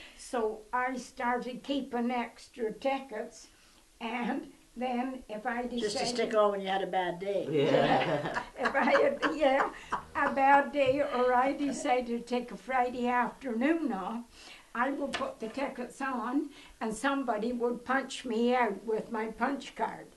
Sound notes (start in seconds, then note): 7.5 laughter